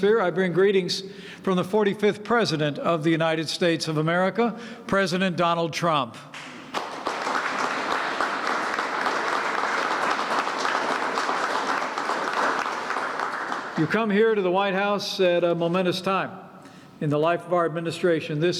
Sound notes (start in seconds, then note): 6.3 applause